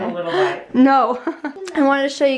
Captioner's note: laughs